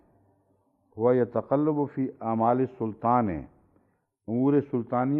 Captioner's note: Arabic